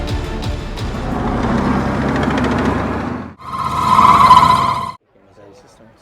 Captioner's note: tanks moving